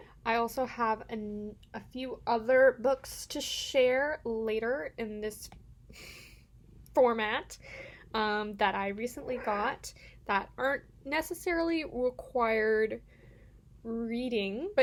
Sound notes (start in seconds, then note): none